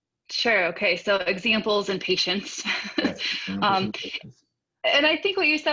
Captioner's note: chuckles